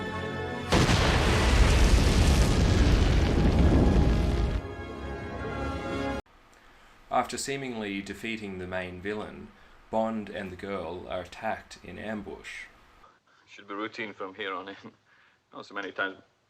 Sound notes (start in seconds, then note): 0.0 triumphant music, bubbles; 0.7 boom, flames roaring; 4.3 triumphant music, bubbles